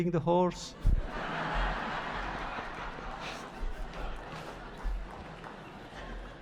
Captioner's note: laughter